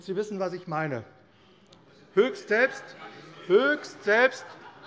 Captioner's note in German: Lachen und Zurufe SPD